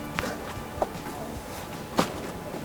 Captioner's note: none